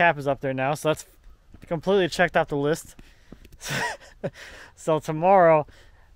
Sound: laughs

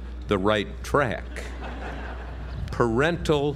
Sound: laugh

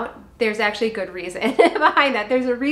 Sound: laughs

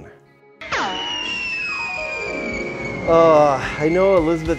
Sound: missile whizzing

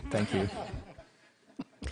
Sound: laughter

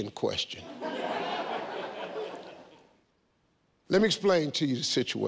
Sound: audience laughing

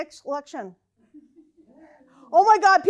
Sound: laughing

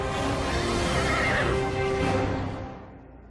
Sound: neighing

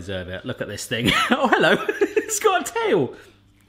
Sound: laughing

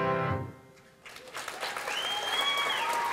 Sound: applause

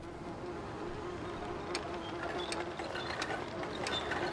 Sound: flies buzzing

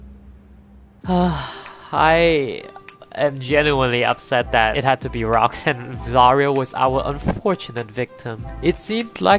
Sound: sigh

